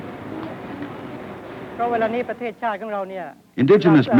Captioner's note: nurse speaking